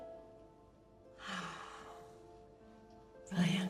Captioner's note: Jess sighing